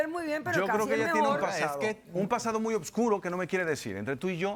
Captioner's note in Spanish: Hablan al unísono